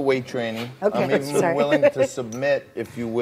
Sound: laughs

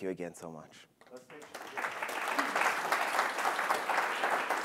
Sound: applause

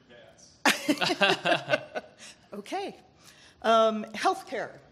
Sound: laughing

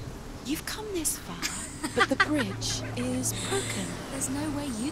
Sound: laughs

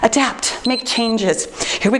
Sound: timer beeps

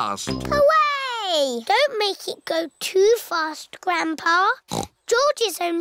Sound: snorts

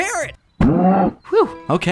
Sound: cow grunts

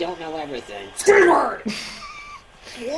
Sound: starts cracking up

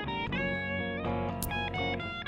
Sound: knife slips

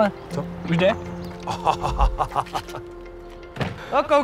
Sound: laughs

